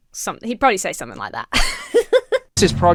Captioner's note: laughs